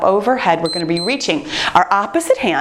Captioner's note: timer beeps